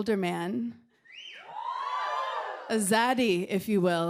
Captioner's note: cheering